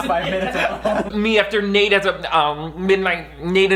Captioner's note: stuttering and struggling to speak